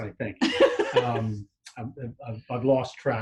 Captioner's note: laughs